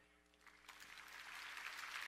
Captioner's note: applause